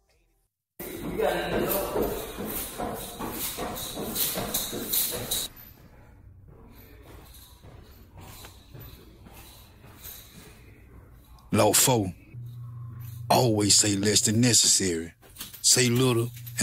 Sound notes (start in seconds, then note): 0.8 footsteps walking up stairs; 5.6 footsteps